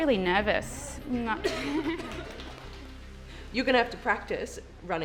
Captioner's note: laughs